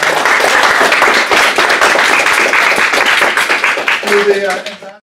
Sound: applause

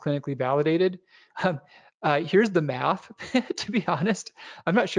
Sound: laughs

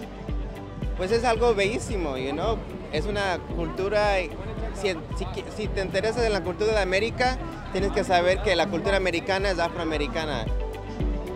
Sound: Spanish

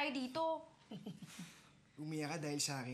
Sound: laughs

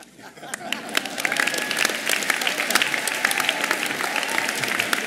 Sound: audience applauding

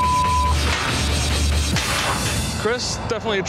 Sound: beep; crashing

